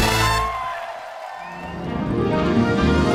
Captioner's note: cast cheering; light music